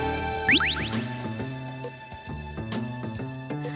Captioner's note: zapping